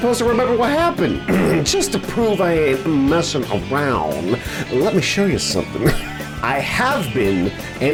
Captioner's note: clears throat